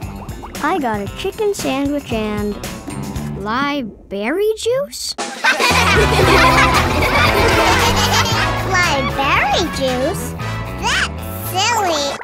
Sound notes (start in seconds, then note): 5.4 laughing